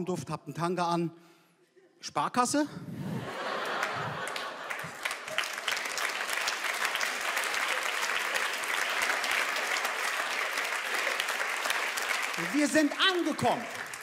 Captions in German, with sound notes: "Ihr riecht nach Raumduft, habt 'n Tanga an. Sparkasse?" (Lachen) (Applaus) Wir sind angekommen.